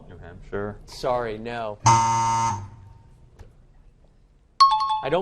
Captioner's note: buzzer; time chime